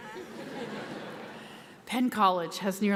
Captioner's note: audience laughs